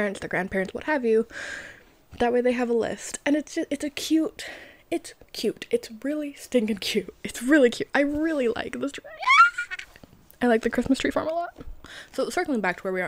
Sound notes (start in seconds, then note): 9.1 screams